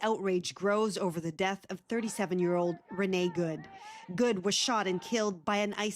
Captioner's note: chanting